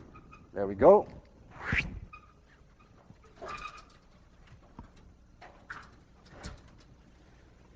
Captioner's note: whooshes